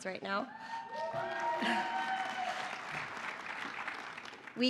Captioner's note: applause and cheering